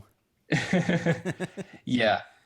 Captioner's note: chuckles